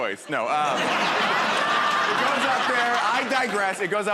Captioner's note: laughter